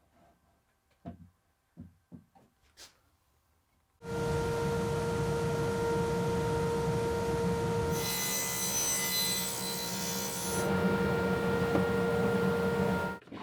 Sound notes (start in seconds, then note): 4.2 machine whirring; 8.2 saw buzzing